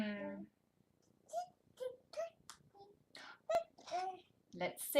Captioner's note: babbling